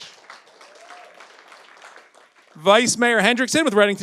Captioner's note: audience applauds